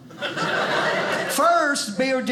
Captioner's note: audience laughing